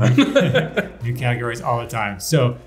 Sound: everyone laughs

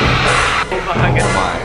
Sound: hair dryer blowing

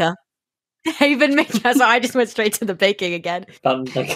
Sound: laughing; laughs

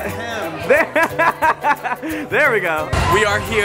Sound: laughs

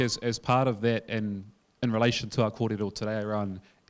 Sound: speaking in foreign language

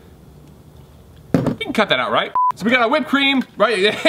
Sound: beep

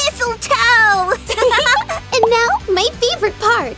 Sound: both laugh

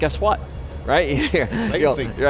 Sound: laughs

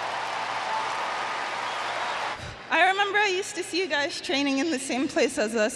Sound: applause

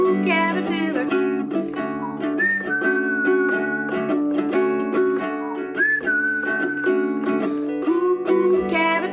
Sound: whistling

